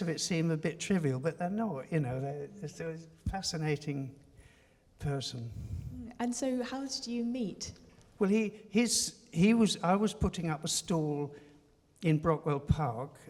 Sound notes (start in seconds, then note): none